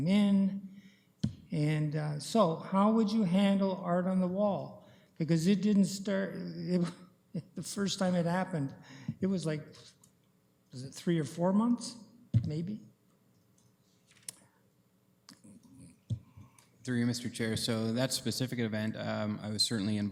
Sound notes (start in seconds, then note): 6.7 chuckling